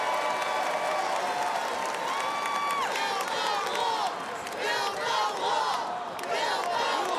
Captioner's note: applause